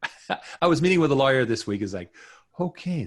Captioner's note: chuckles